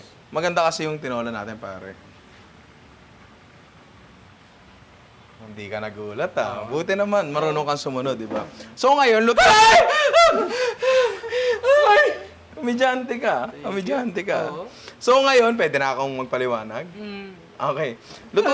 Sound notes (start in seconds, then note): 9.3 screams; 18.3 laughs